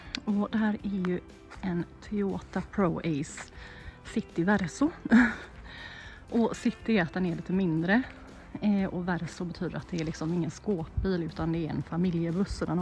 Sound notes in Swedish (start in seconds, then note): 5.0 drar efter andan